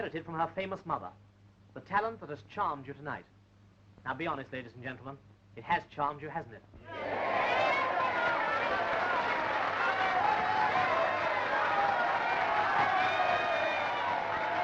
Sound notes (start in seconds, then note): 6.8 audience cheering and yelling; 10.7 applause